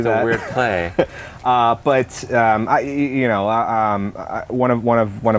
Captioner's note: laughter